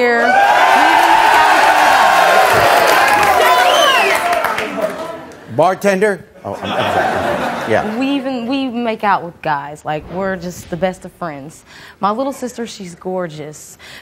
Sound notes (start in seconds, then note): 0.0 audience cheering; 6.5 audience laughing